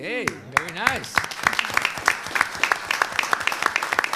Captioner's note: applauds